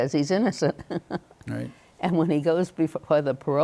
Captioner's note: chuckles